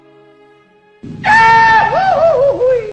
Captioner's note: scream